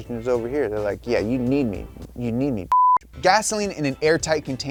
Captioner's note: beeping